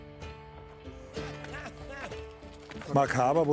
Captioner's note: coughs